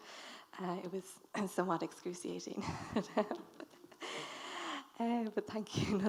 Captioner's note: chuckles